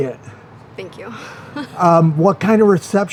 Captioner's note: chuckles